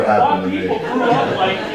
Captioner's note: audience laughing